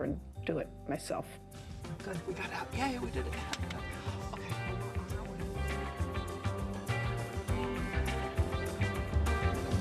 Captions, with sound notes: and do it myself. Oh, good, we got out, yay, we did it. (claps) Okay, we're on our way. (funky music)